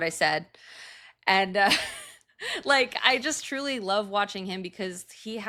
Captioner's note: chuckling